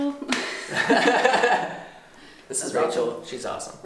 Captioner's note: laughs